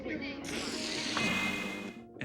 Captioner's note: static hissing